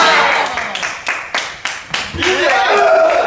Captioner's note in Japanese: 拍手